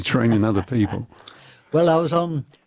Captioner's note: laughter